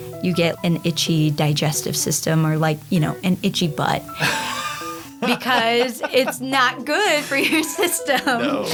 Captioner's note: laughing